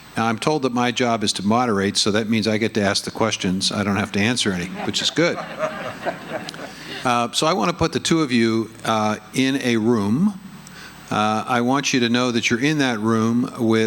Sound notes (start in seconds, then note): 4.5 audience laughing